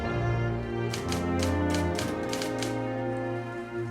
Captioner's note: typing